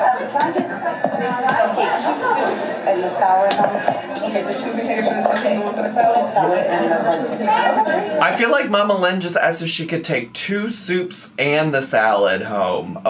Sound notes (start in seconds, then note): 0.1 people chattering; 6.8 people chattering